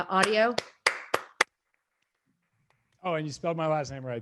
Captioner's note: audience applauding